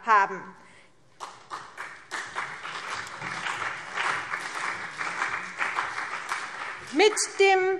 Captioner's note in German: Beifall CDU und BÜNDNIS 90/DIE GRÜNEN